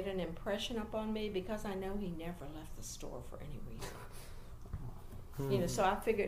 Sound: laughs

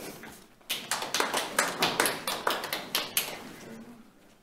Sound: audience clapping

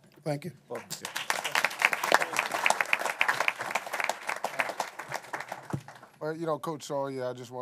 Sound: applause

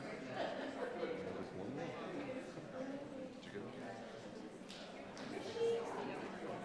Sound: people chattering indistinctly

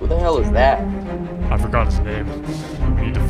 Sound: chuckle

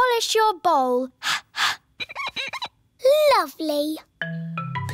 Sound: exhales; glass squeaks

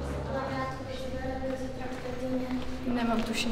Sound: indifferent talk

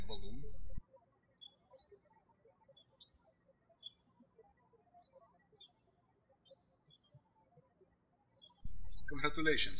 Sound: birds chirping

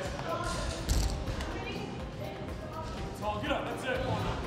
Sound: weights drop to the floor

